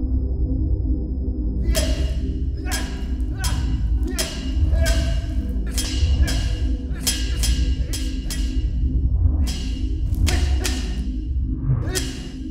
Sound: grunting

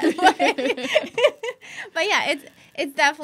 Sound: laughing

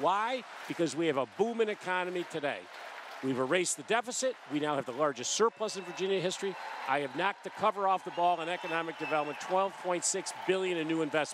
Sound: applause

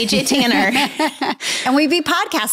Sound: laughs

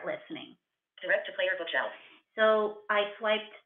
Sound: VoiceOver voice

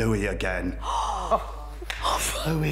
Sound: gasping

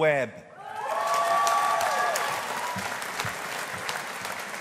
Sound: audience applauding

